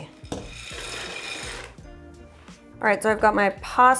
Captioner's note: penne patters